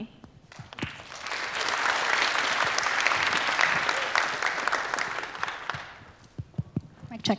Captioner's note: applause